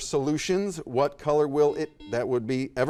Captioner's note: buzzer dings